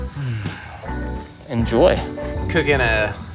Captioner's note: s'more crunches; sighs